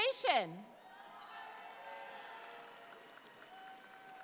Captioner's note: audience applauds